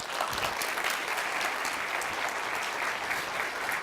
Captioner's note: applause